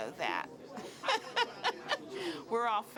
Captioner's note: laughing